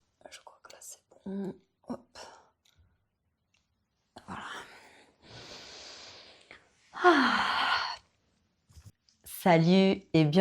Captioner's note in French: soupir